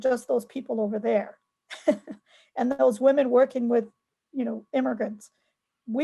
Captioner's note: chuckles